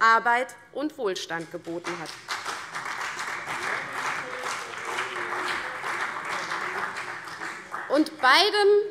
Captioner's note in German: Beifall CDU und BÜNDNIS 90/DIE GRÜNEN